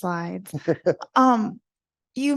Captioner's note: laughs